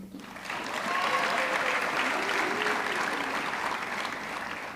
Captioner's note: audience clapping